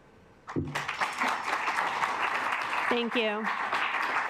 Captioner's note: assembly clapping